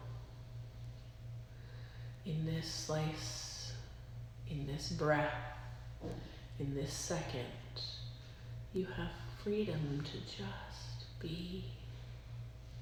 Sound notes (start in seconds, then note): 9.3 deep inhale, deep exhale